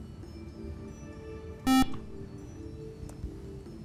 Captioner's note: buzzer